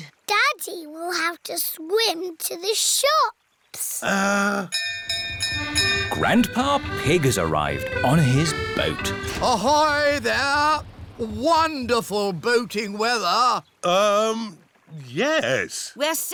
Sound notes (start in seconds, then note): 4.7 bell rings